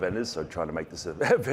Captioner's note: chuckles